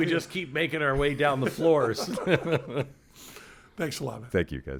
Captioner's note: laughs